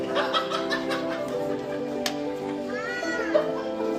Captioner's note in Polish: śmiech